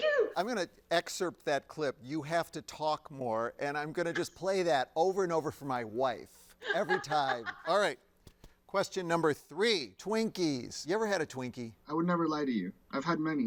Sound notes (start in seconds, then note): 6.6 laughs